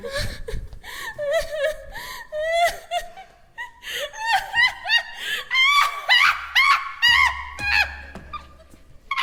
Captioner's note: crying turns to maniacal laughter